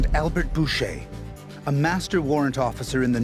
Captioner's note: voiceover